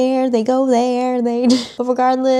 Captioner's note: laughs